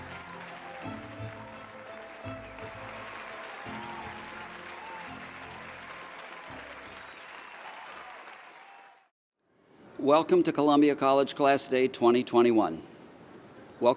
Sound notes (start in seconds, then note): 5.1 audience cheers and applauds